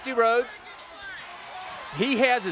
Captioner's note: crowd chatter